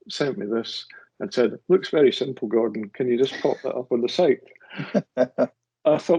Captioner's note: laughs